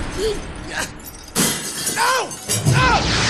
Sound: glass smash

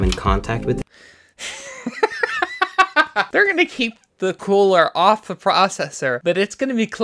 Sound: laughs

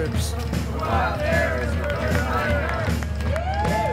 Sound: crowd

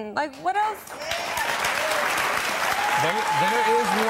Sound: audience cheers

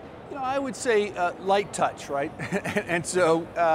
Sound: laughs

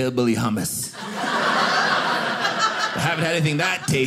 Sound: audience laughing

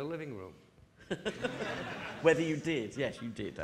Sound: audience laughing

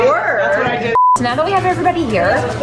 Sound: beep

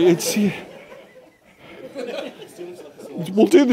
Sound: laughter

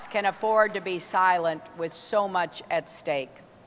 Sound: applause

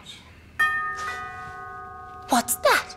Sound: doorbell chimes

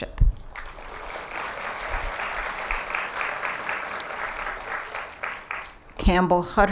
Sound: applause

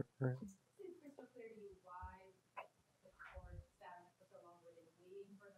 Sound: woman speaks faintly

